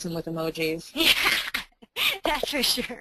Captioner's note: laughing